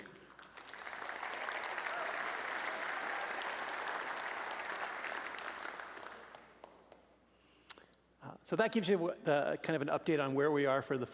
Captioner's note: applause